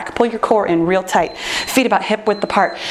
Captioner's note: timer beeps